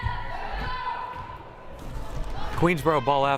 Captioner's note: crowd cheering